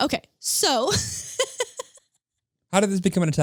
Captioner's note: laughing